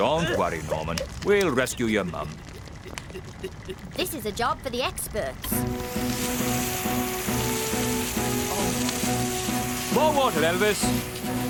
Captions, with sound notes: DON'T WORRY, NORMAN, WE'LL RESCUE YOUR MOM. THIS IS A JOB FOR THE EXPERTS. ( Water Gushes ) MORE WATER, ELVIS!